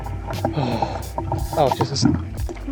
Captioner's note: sigh